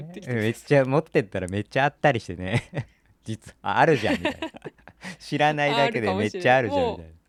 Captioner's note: laughs